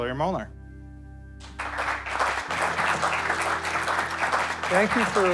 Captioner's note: audience clapping